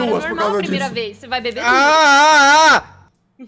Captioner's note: scream